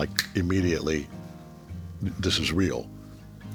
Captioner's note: J.K. snapping